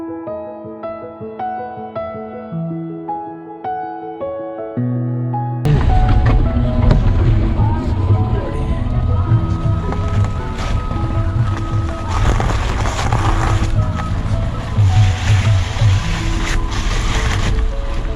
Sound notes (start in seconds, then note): 5.7 car struggling on the road due to snow